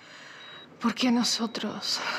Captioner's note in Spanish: Bip del monitor